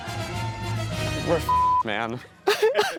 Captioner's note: beep